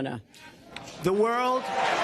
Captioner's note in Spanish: aplausos